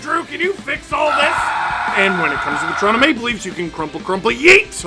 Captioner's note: screaming